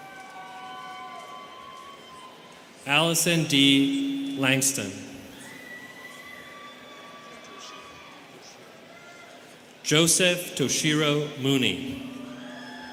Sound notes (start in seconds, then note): 0.0 students cheering; 5.3 students cheering